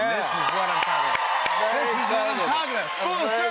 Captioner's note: cheers and applause